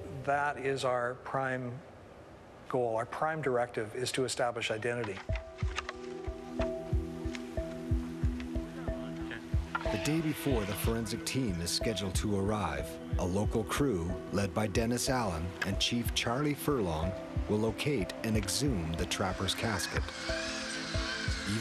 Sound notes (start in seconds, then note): 5.4 mysterious music; 10.1 voiceover